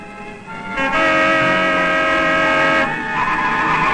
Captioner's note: car horn blares; brakes screeching